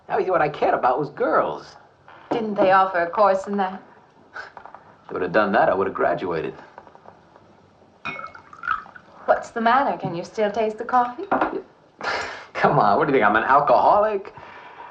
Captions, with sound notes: The only thing I cared about was girls. - Didn't they offer a course in that? - If they would've done that, I would've graduated. (liquid pouring) - What's the matter? Can you still taste the coffee? - Come on, what do you think, I'm an alcoholic?